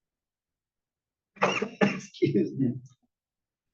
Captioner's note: cough